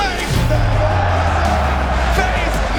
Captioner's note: crowd cheering